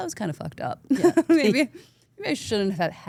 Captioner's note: laughs